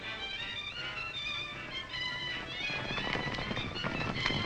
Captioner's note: horses galloping